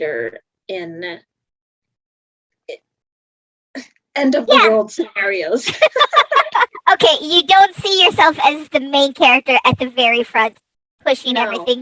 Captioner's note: laughs